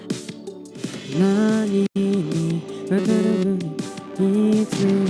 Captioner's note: humming